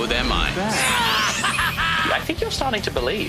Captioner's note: evil laughter